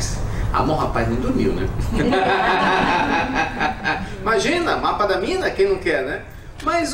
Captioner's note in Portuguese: Risos